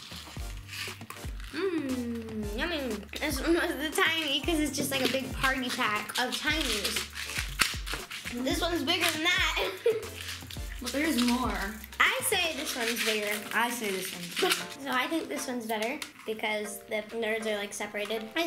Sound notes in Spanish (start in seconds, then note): 9.6 risas